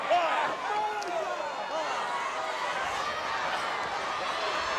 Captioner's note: audience chattering